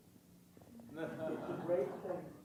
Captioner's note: audience laughing